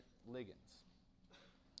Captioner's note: cough